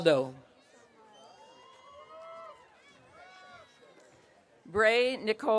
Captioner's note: audience cheering